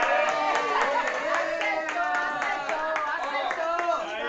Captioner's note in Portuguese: gritos de empolgação